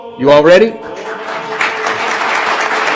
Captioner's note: applause